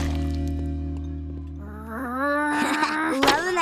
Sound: growling; chuckles

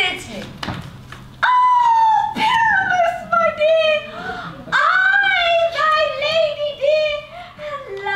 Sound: high pitched woman's voice

